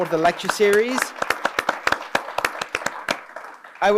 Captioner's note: applause